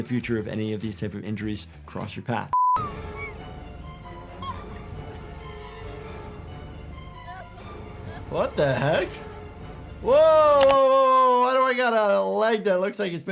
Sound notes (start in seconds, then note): 4.1 suspenseful music; 4.3 whimpers